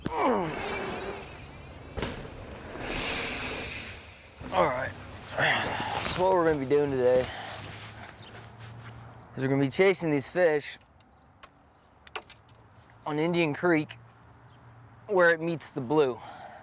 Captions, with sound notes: Ugh. (tires whirring) All right, what we're gonna be doing today is we're gonna be chasing these fish on Indian Creek where it meets the Blue.